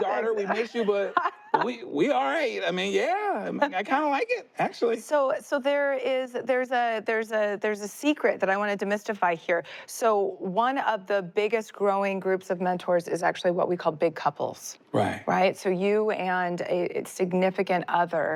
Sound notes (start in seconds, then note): 0.1 laughs